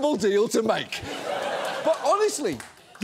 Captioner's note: audience laughing